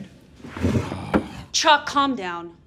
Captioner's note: Chuck groans